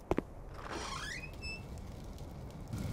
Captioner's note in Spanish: la puerta se abre